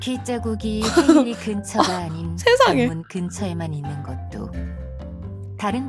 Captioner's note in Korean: 웃음